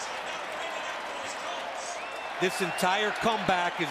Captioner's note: pa announcement